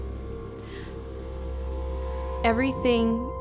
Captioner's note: inhales